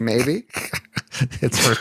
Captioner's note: laughter